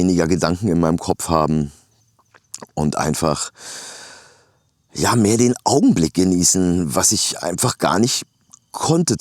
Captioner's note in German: japst